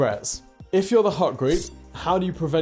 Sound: sword scrapes

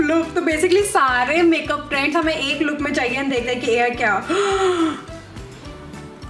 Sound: sigh

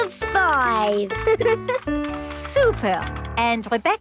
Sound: giggles

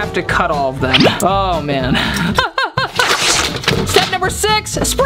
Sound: laughing

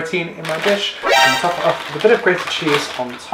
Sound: horror effect

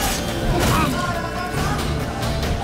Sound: groan

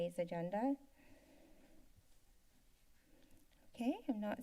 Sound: breathing sound

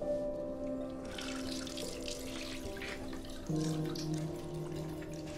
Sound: water rushing

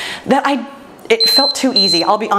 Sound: timer beeping

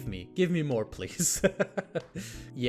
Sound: laughs

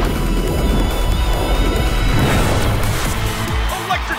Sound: mermaids cheer

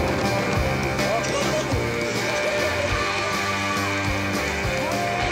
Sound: laughing

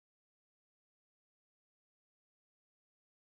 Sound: none

